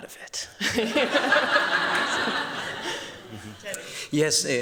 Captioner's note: laughter